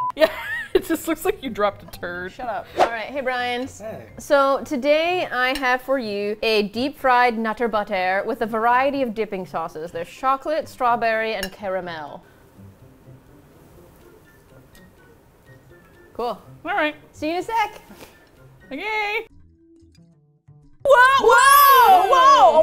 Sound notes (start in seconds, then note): 0.4 laughs; 2.8 whoosh